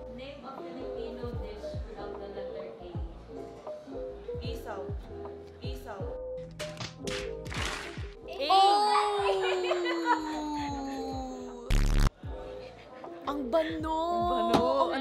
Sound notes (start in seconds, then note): 6.5 hand smacking; 8.5 laughs